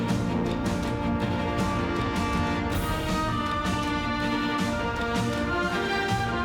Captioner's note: applause